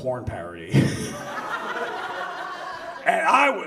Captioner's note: audience laughs